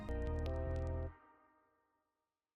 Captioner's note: music Stops